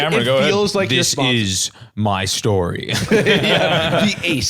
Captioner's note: dramatically; laughs